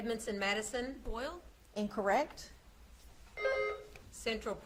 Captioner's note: buzzer beeps